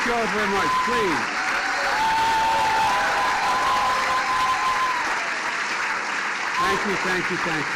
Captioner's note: cheers and applause